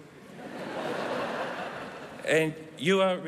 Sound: laughter

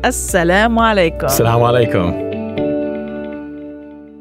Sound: speaking in Arabic

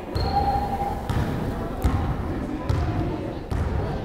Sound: crowd chattering

